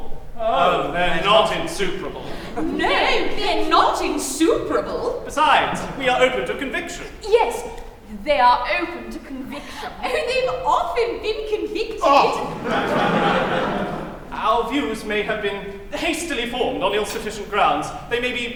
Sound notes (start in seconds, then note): 12.2 laughter